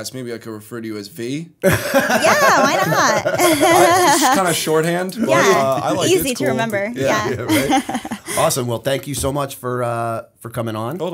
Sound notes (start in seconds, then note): 1.6 laughter